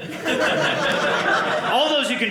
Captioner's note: audience laughing